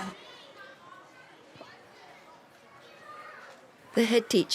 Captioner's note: school yard chatter